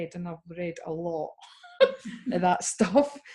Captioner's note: laugh